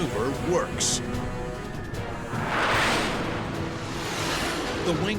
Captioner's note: jet engine noises